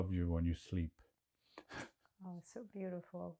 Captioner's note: laughing